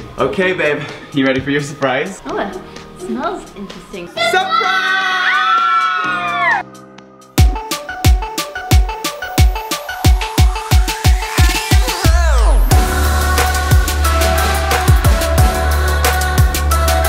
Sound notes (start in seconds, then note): 4.4 cheering; 7.4 upbeat music